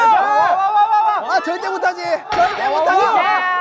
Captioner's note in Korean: 열띤 응원